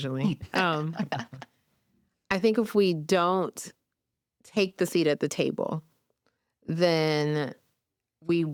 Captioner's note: everyone chuckles